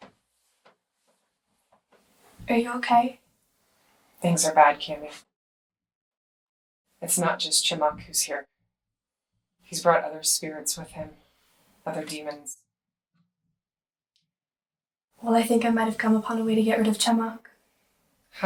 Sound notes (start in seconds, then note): none